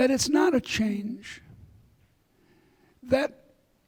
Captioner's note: none